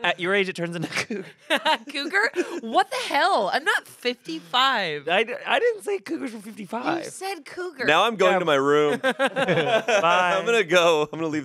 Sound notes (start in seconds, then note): 8.8 everyone laughs